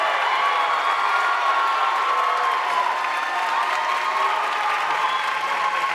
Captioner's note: audience cheering and applauding